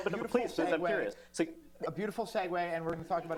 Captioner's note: laughter